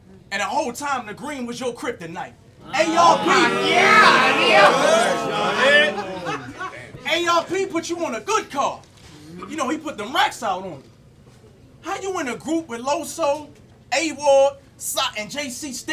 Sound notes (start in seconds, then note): 2.6 audience yells